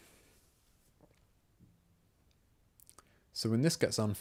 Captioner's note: silence